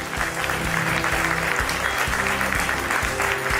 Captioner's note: applause